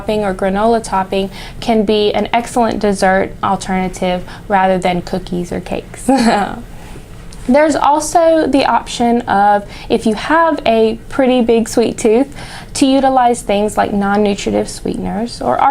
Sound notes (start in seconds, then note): 6.1 laughs